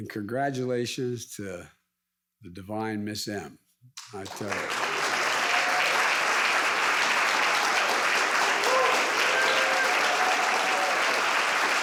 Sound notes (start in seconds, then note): 4.0 audience applauds